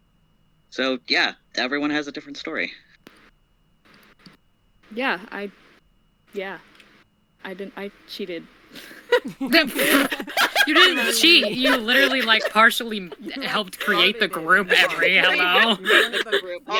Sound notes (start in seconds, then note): 8.7 laughter